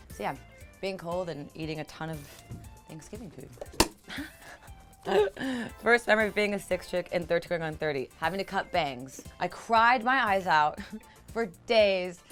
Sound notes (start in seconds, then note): 5.0 laughing